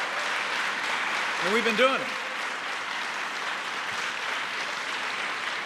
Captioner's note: applause